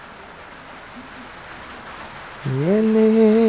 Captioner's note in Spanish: Sonido del viento